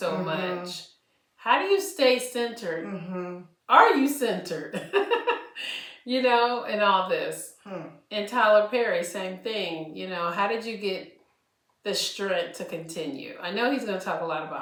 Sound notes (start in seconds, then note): 4.7 laughter